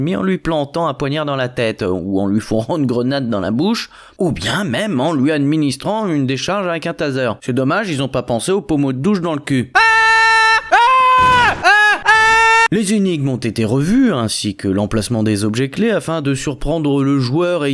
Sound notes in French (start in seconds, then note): 9.8 cris du loup en stream